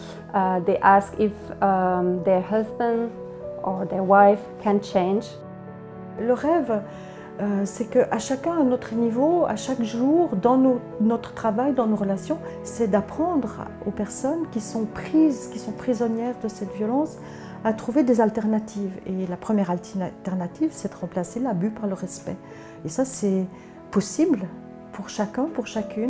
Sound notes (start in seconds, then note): 6.2 audio in French